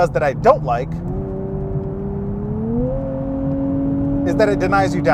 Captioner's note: car engine revs